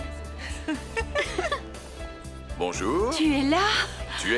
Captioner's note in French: rires